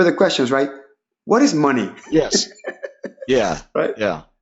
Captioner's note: laughing